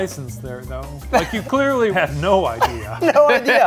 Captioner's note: laughs